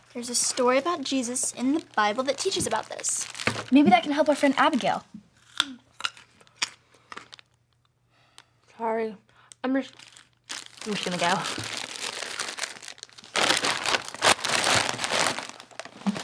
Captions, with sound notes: There's a story about Jesus in the Bible that teaches about this. - Maybe that can help our friend Abigail. (carrot snapping) - Sorry, I'm just... I'm just gonna go. (bags crinkling)